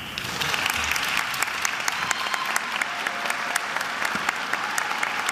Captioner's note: attendees applauding and cheering